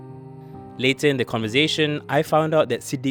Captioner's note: voiceover